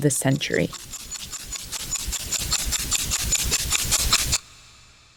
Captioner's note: soundbite of clock ticking